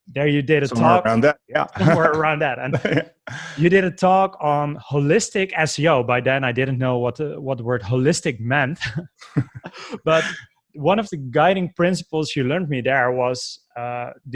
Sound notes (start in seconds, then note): 8.8 laughs